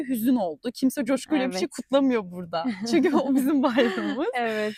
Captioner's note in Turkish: kahkaha